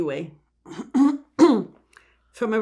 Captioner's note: clears throat